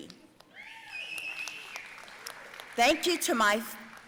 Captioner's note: audience cheering and applauding